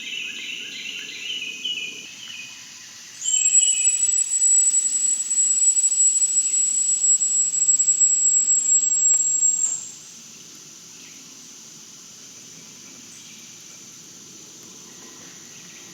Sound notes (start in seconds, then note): 3.2 high pitched, whining whistle